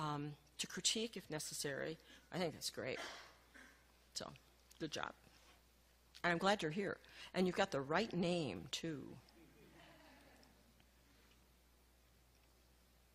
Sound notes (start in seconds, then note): 9.4 light laughing